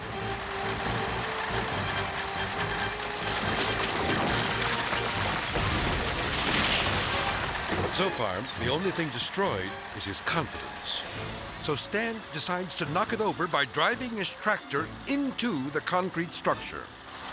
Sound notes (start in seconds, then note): 0.1 suspenseful music; 0.1 tractor whirring; 3.9 silo crumbling